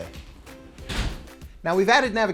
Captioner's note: door closes